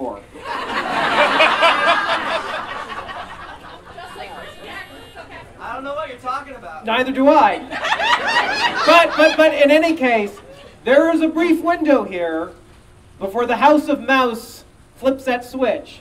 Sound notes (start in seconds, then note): 0.3 audience Laughing; 7.5 audience Laughing